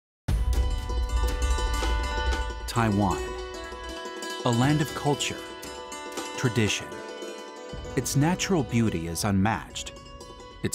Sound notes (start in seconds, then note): 0.9 exotic instrumental music; 2.7 voiceover